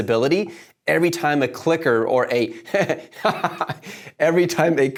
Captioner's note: laughs